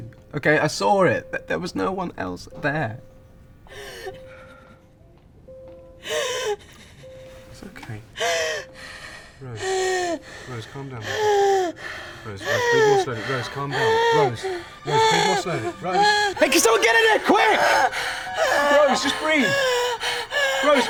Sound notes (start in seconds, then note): 4.2 crying; 8.1 Rose breathing heavily; 15.7 Rose breathing heavily; 20.0 Rose breathing heavily